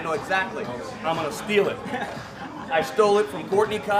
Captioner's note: others laugh